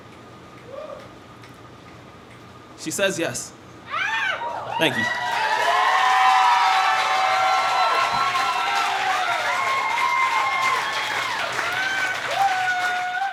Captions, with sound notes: She says, "Yes." (audience members scream) Thank you. (audience cheers and applauds)